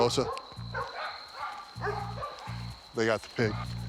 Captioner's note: neighborhood dogs barking